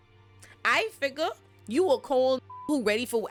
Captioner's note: beep